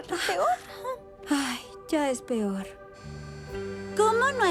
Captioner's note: sigh